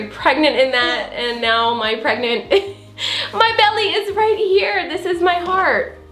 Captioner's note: chuckles